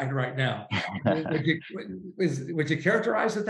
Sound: laughs

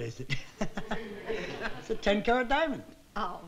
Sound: chuckles

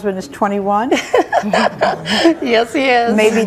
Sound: guests laugh

